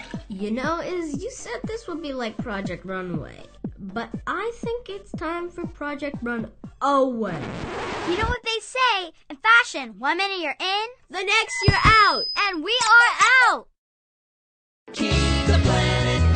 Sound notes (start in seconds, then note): 0.0 water draining; 7.2 record scratch